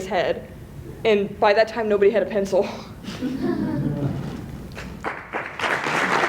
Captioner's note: laughter; applause